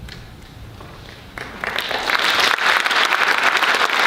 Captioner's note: applause